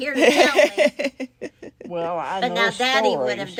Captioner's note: laughs